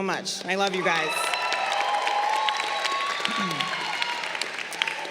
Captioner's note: crowd cheering